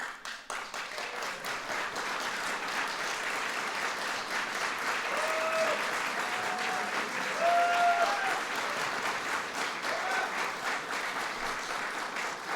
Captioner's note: applause